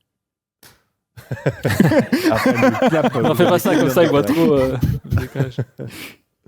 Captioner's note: laughs